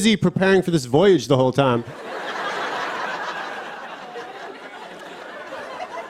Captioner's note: laughter